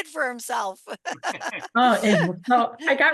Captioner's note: laughter